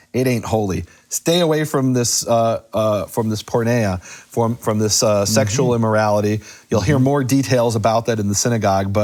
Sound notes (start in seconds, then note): 2.5 speaks in foreign language